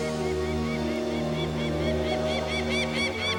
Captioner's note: cawing